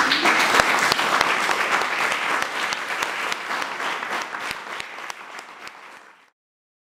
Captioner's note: applause